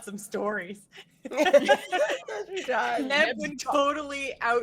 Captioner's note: group laughs